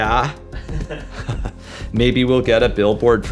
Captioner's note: laughter